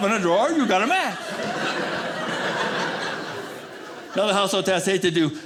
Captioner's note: audience laughing